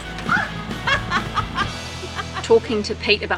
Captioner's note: laughter